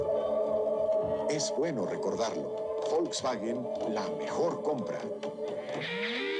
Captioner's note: man speaking foreign language